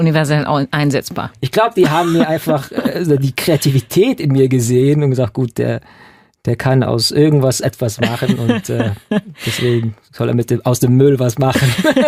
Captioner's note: laughing